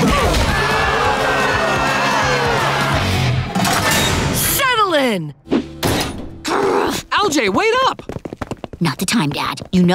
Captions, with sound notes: [booing] Settle in! [growling] LJ, wait up! Not the time, Dad.